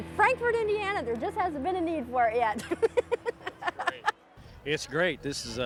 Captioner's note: laughs